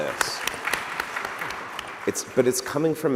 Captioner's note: applause